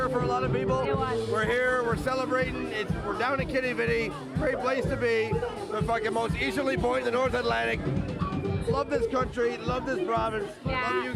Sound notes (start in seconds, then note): none